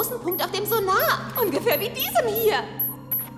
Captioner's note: beeping